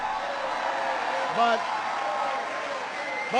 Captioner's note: applause